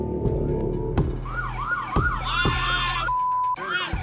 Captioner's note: siren wailing